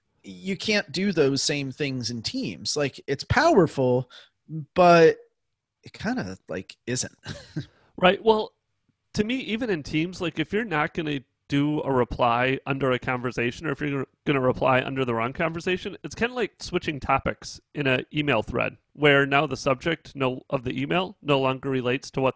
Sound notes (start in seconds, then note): 7.2 chuckles